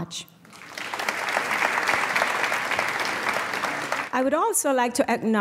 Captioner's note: applause